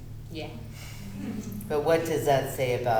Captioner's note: laughter